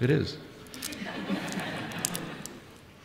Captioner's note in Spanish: Risas